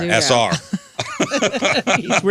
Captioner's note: laughter